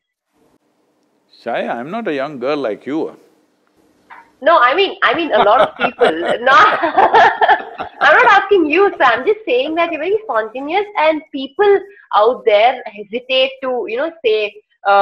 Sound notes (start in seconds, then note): 4.7 laughs; 4.9 both laugh